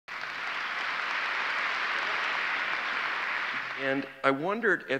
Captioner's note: audience applause